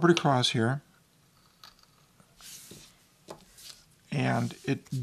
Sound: glass scraping

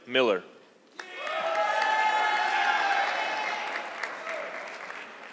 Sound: audience clapping

